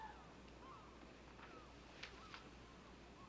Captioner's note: birds chirping